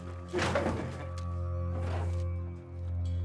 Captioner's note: drawers open